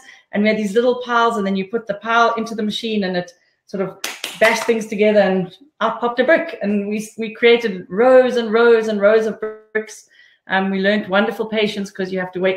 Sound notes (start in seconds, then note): 4.0 clapping